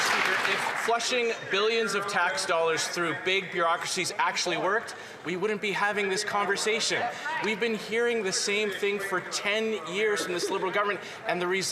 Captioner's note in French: voix de l'interprète